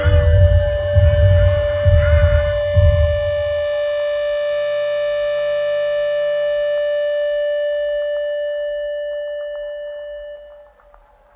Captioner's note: <<PIEP>> - sounds like cardiac arrest